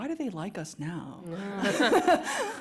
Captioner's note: laughter